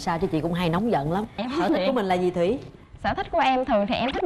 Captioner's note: giggles